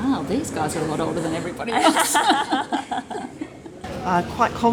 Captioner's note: laughs